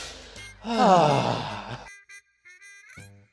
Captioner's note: sigh; baby crying